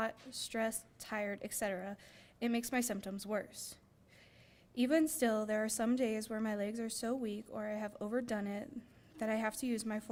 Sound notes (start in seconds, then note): none